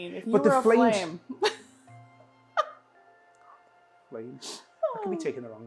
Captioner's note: laughing